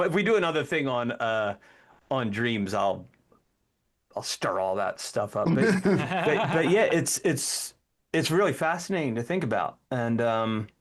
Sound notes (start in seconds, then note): 5.5 laughing